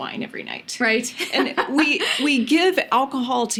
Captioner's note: laughs